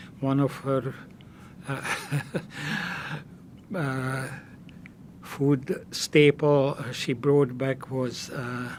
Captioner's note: laughing